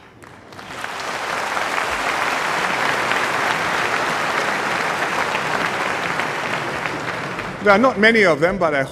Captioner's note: applause